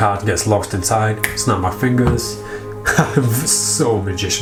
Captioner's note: laughs